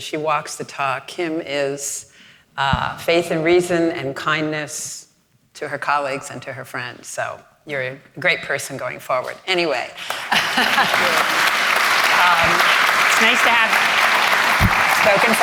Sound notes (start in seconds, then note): 10.0 audience applauding